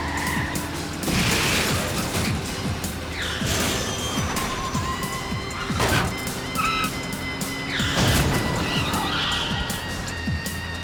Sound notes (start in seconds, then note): 0.0 cars crunch; 0.0 tires screech